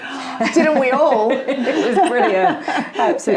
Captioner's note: laughing